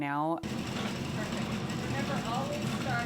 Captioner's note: machine rumbling